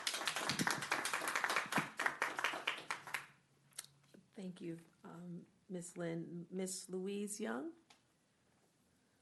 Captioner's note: clapping